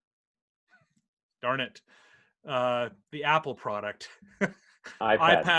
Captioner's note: laughs